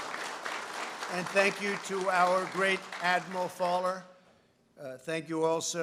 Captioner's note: applause